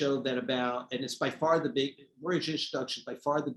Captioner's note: speaking faintly